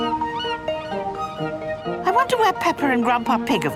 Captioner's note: gulls squawking